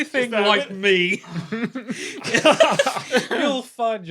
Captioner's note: laugh; snickers